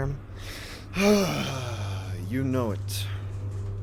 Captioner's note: heavy sigh